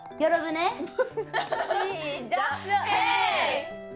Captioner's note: can't hide her laughter